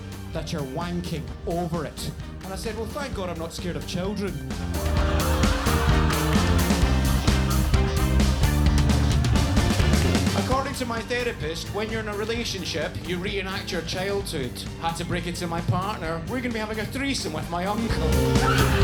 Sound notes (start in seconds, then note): 4.7 upbeat music continues; 4.7 audience laughs; 17.9 audience laughs; 18.6 upbeat music continues